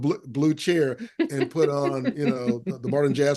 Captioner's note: laughing